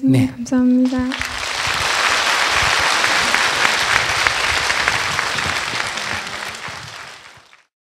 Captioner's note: audience applause